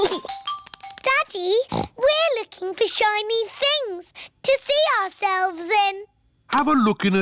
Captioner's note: giggles; snorts